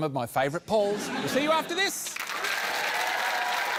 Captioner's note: cheering, applause